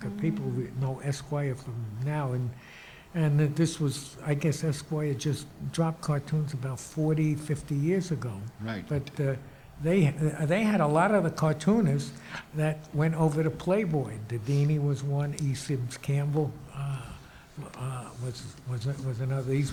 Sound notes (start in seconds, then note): none